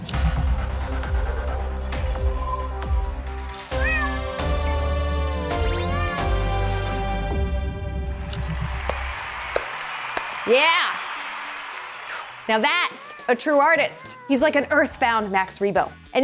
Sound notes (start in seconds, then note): 0.3 futuristic music; 3.7 meow; 8.7 clapping; 8.9 cheering